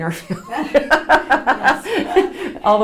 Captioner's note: laughs